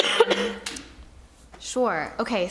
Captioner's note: coughing